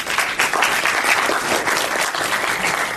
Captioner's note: applause